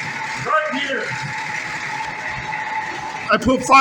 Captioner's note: engine idling